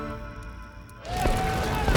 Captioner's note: men screaming